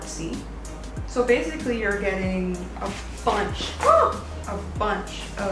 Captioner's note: screams